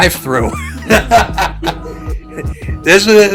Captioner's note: laughs